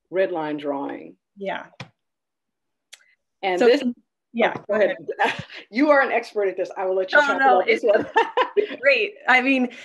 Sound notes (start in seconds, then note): 7.6 laughing